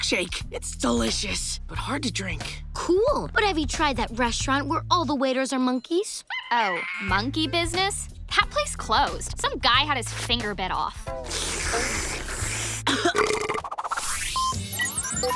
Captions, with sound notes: it's delicious, but hard to drink. Cool, but have you tried that restaurant where all the waiters are monkeys? Oh, Monkey Business? That place closed, some guy had his finger bit off. [slurping] [belching] [beeping]